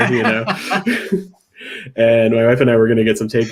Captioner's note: laughing